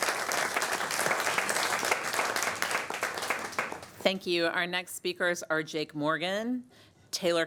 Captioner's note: applause